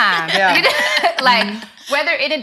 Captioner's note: ladies laughing